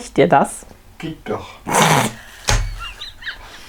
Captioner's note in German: Aus dem Off; lacht